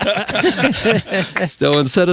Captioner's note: laughing